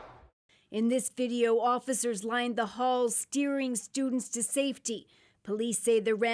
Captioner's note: shots